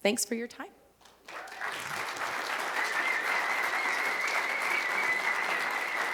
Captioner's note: applause